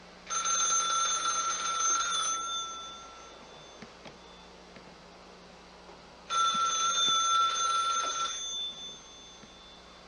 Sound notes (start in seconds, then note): 0.4 ringing; 6.3 ringing